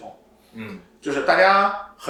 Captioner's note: nonverbal grunt as interjection